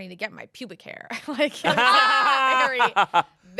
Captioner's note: everyone laughs